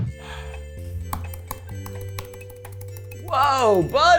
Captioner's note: sighs, taps backspace button rapidly